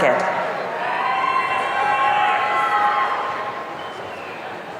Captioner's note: audience cheering